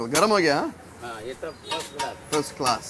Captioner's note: speaking in Hindi